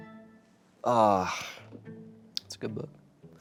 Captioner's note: sighs